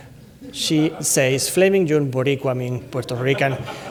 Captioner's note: speaks Spanish word